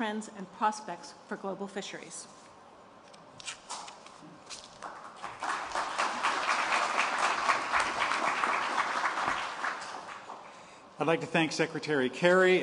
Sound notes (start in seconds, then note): 4.7 applause